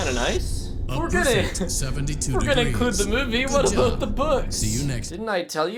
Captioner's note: laughs